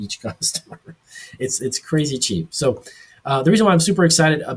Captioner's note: laughs